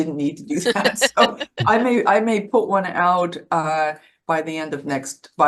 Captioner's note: chuckling